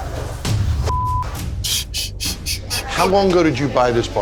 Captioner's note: chuckles